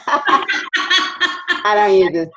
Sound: laughing

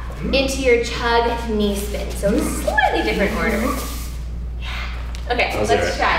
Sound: sighs

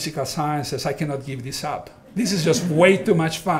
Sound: audience laughing

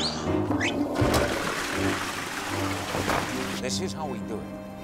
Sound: toilet flushing

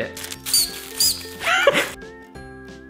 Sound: gadget squeaks; laughs

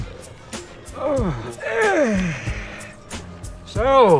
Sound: grunting

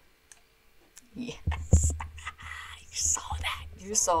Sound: mouse clicking; whispering

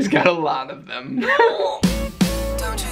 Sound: groans

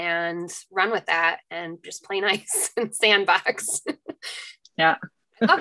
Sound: laughs

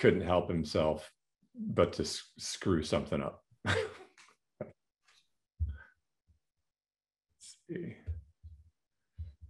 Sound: laughter

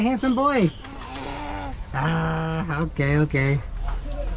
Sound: grunts

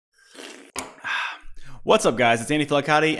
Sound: slurping

